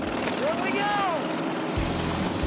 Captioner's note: engines roaring